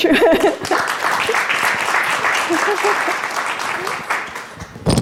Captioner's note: applause